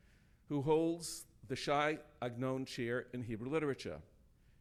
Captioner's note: speaking in foreign language